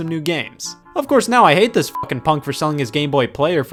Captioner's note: beep